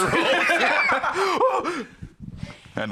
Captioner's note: both laughing